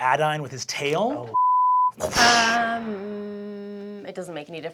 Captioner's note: beeping; whooshing